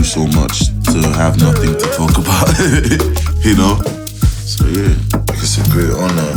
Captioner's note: laughs